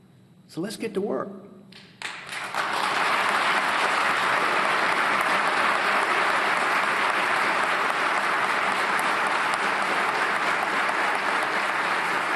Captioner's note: applause